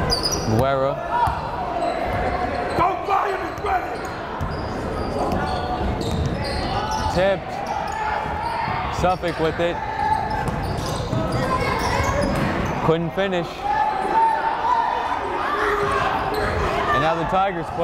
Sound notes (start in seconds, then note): 2.4 yelling; 10.6 chattering; 15.1 yelling